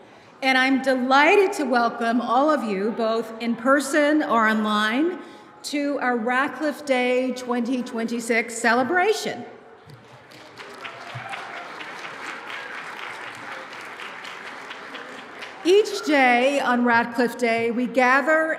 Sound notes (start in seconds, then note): 9.9 applause